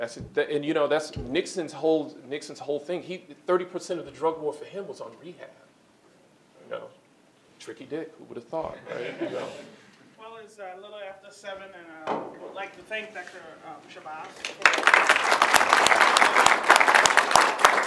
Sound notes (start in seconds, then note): 8.8 laughter; 14.3 applause